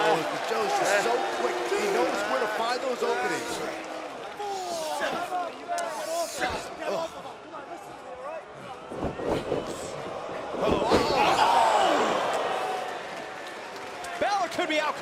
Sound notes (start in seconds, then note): 5.1 crowd chatter